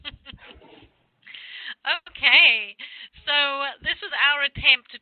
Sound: laughing

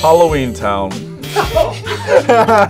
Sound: buzzer rings; buzzer; both laugh

